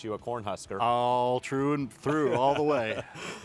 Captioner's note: laughs